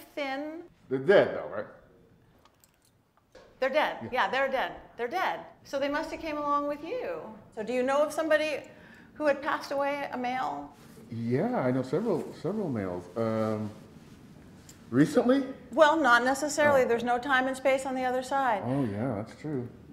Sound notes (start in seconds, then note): none